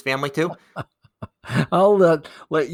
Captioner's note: laughing